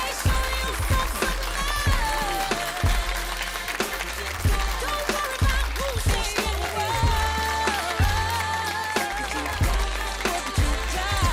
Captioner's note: applause